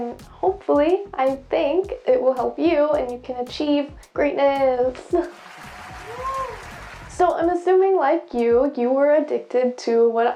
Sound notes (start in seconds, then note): 5.3 applause